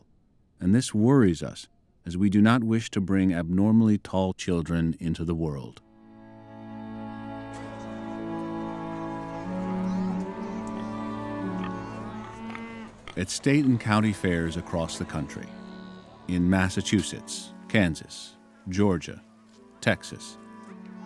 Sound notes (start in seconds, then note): 10.6 oinking